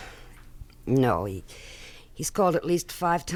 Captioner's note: sighs